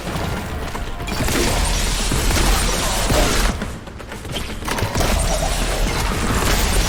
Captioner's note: intense suspenseful music; gun blasting